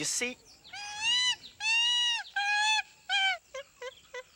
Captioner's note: cheetah screams